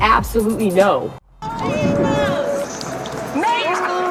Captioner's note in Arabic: صرخات غير واضحة